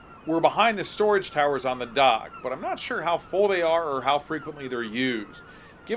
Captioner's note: birds chirping